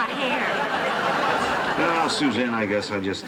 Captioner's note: laughter